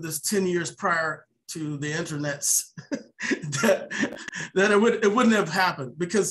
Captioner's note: laughs